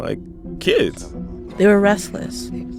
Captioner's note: soundbite of archived recording